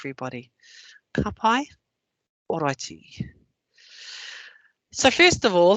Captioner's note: non-english speech